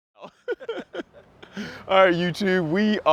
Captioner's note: men laughing